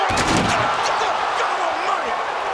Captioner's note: audience groans; bodies thud